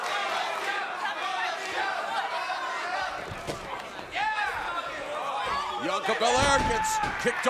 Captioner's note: crowd cheering